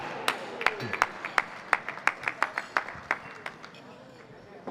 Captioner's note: audience applauding